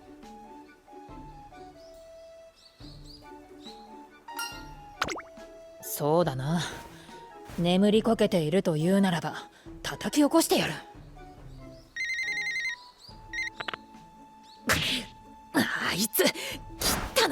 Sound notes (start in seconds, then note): 11.7 briiiiiiing*—*click*!